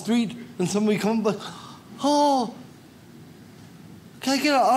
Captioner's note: none